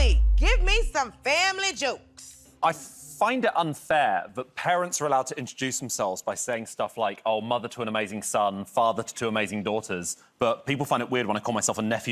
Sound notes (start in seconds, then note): none